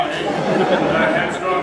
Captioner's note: noises of disgust, laughter